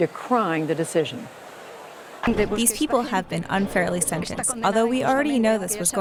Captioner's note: through translator